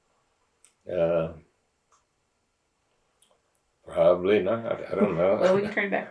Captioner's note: laughs